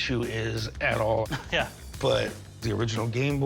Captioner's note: chuckles